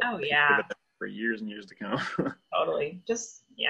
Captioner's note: laughs